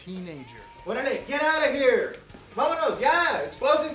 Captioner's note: speaks in Spanish